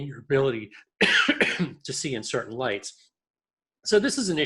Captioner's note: coughs